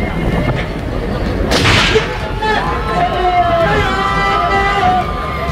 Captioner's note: bang of gunshot